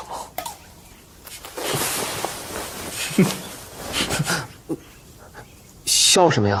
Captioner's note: Shen Jianqing can't help but laugh